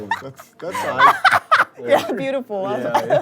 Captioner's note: laughing way too hard